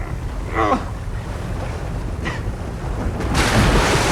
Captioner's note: grunting